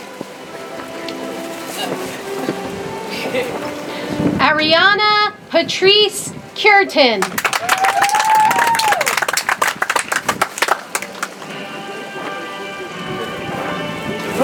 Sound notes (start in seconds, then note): 7.2 audience applauds; 10.9 soft music